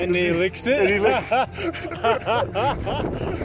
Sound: laughing

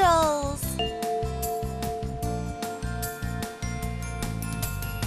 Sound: bell chimes

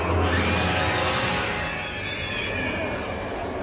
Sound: shrieking

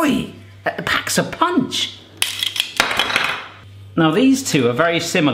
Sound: clanging

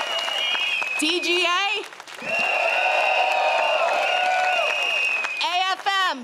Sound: crowd cheers

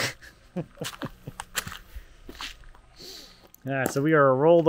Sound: laughing

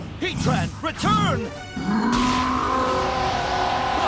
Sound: roars; Saturn groans

